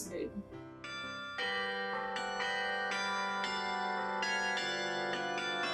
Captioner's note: bells chiming